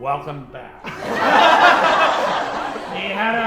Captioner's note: audience laughing